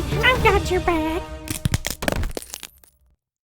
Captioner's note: snapping